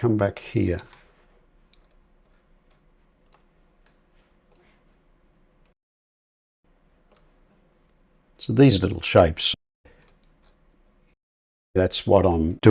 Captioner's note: silence